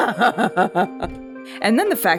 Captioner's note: manic laughter